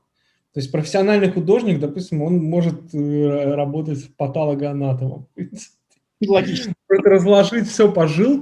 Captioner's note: laughs